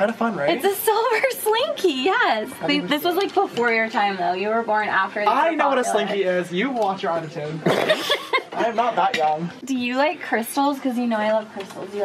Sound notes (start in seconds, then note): 7.6 laughing